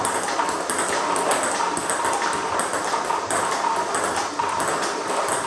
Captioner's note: ball ping pong hitting continues